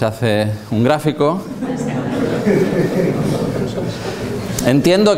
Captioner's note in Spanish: risas